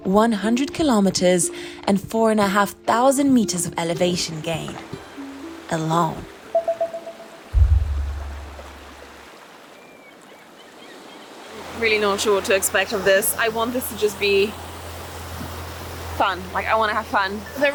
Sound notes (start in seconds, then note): 6.5 signal rings; 9.2 seagulls squawking; 9.2 waves swishing